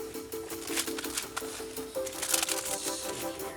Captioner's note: envelope rustles